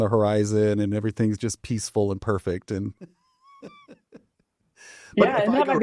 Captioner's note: chuckles